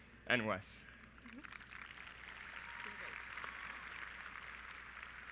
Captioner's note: audience applauds